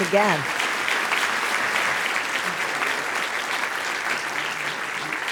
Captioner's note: audience applauds